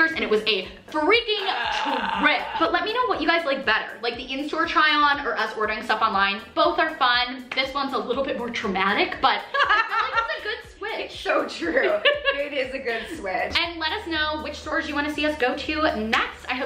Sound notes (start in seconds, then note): 9.5 laughs